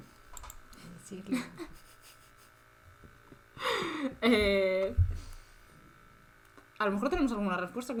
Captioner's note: awkward pause